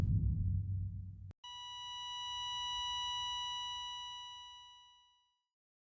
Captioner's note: monitor Sound Flatlines